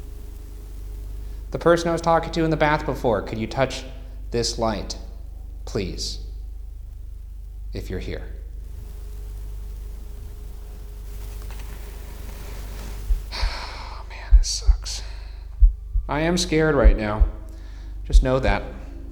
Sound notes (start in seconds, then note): 13.3 exhales sharply